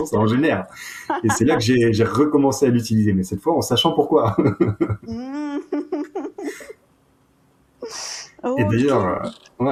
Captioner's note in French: rires